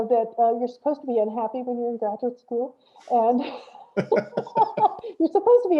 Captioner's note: laughs